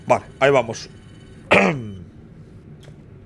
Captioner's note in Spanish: carraspea